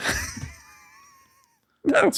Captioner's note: laughing